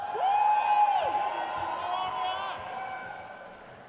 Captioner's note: crowd cheers